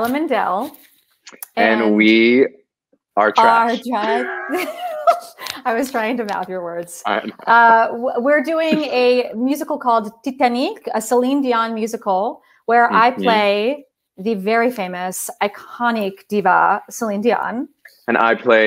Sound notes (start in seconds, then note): 3.2 laughs